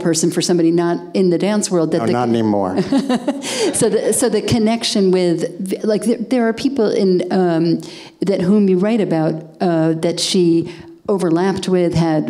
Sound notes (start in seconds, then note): 2.8 laughing